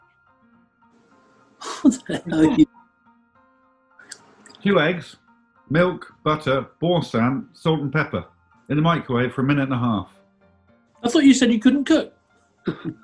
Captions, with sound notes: [LAUGHING] What the hell are you...? Two eggs, milk, butter, Boursin, salt and pepper. In the microwave for a minute and a half. I thought you said you couldn't cook?